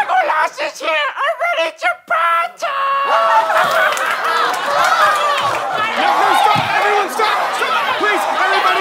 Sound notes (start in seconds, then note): 0.0 laughing; 3.6 clapping; 5.5 laughing